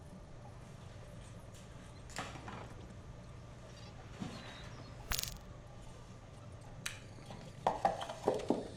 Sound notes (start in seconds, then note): 5.0 glitchy disconnect